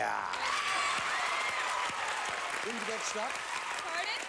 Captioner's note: audience applauding